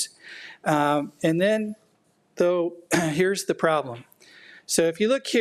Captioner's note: clears throat